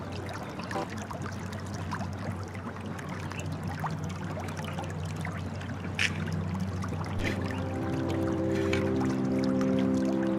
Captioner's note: water running